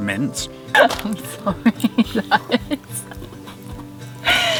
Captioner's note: laughing